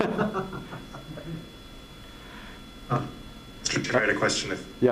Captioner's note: group laughs